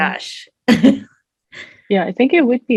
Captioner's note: laughs